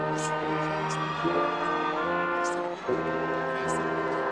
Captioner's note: attendees cheering